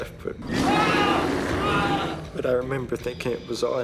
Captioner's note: yelling